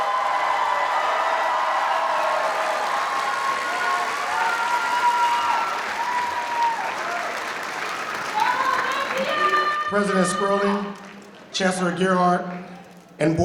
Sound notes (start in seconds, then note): 0.1 audience cheering; 3.2 applause